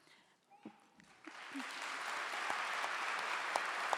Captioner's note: clapping